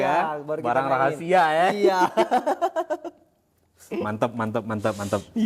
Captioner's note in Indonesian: tertawa